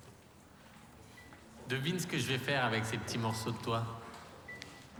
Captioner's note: speaking french